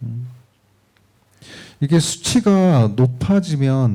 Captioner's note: speaking korean